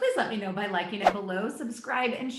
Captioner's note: air whooshing